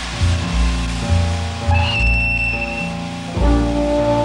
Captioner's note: train whistle blowing